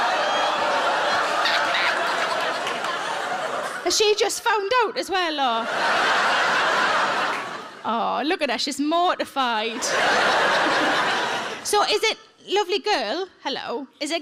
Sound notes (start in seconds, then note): 5.5 audience laughs; 9.6 audience laughs